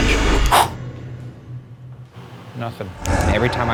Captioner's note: exhales